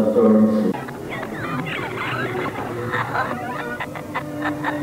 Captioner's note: distorted screeching; distorted laughter; faint music